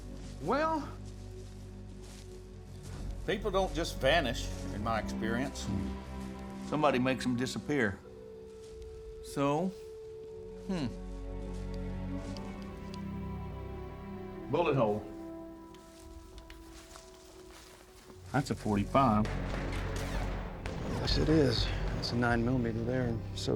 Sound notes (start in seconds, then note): 14.8 footsteps; 19.2 flashback, gunshots fired